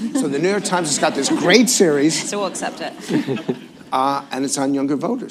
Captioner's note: laughter